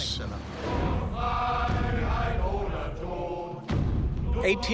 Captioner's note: in German